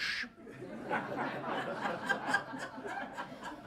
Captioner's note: audience laughs